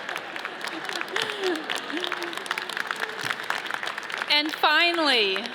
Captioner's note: laughs